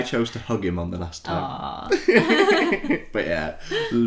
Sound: giggles

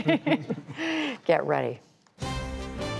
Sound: laughter

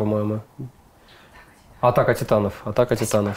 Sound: whispering

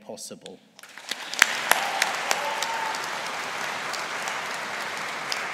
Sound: audience applauding

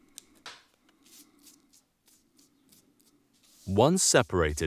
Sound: brush scratching

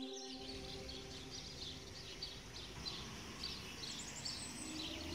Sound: birds chirping

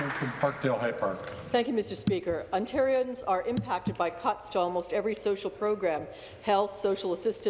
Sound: some Applause

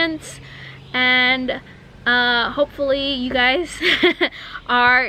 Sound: chuckles

